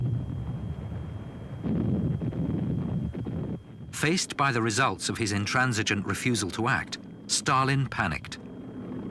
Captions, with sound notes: (bombs blasting) Faced by the results of his intransigent refusal to act, Stalin panicked.